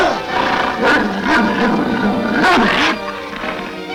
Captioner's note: devil growling